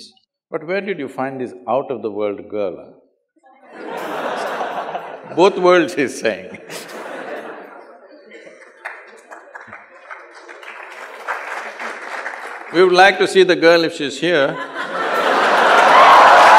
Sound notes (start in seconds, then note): 3.7 laughter/Applause; 7.6 laughter; 14.5 cheers/Laughter